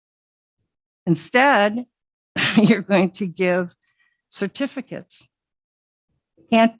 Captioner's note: chuckle